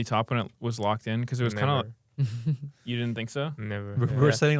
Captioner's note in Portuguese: risos